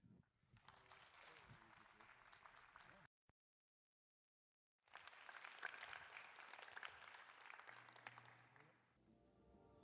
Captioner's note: applause